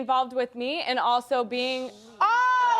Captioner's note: audience booing